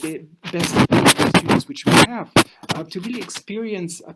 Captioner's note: audio crackling